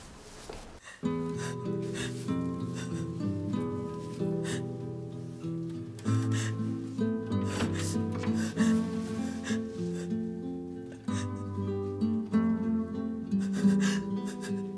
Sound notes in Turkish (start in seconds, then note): 1.0 Ağlıyor; 6.0 Duygusal müzik